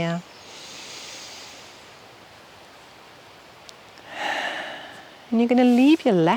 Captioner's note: inhaling and exhaling